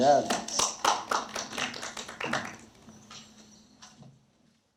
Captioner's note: audience applauds